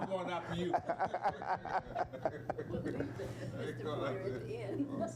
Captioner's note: all laughing